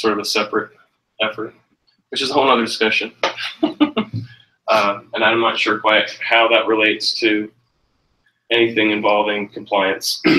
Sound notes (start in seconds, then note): 3.2 chuckles